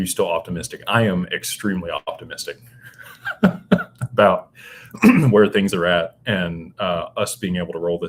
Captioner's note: laughter; clears throat